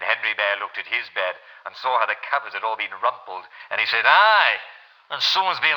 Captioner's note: creaky old voice; big gruff voice